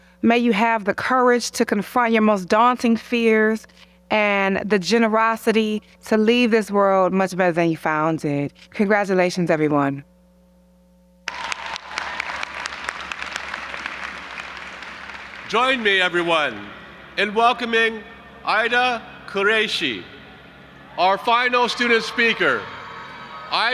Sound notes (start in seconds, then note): 11.2 audience applauding